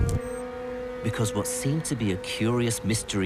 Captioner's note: voiceover